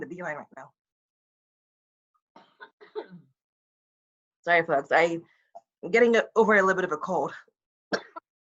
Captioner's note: coughs